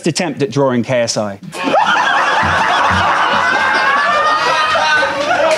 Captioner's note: audience laughing; audience clapping